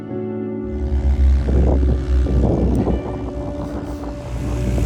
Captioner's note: plane propellers whir